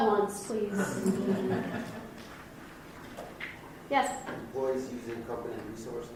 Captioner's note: mild laughing